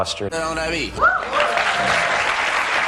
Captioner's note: woo!